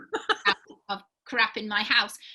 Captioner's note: laughing